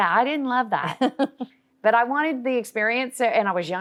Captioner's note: chuckles